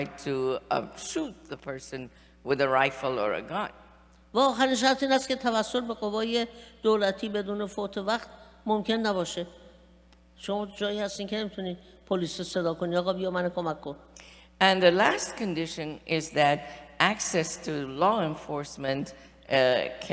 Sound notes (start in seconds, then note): 4.0 speaking persian